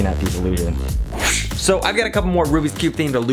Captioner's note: camera whooshes